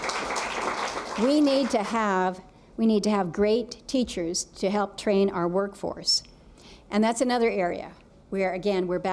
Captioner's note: applause